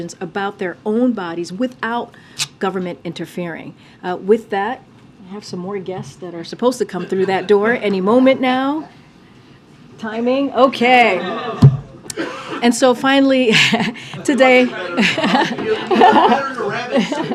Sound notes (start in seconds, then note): 11.1 laughter